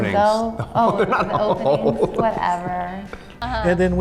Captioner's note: laughs